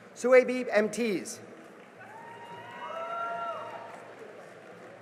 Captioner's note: cheering and applause